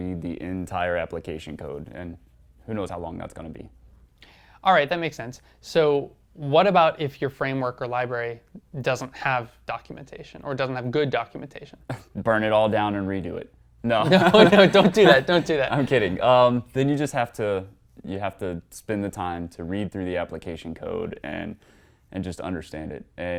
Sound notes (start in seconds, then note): 14.0 laugh